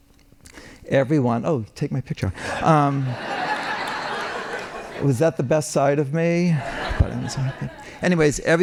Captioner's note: laughing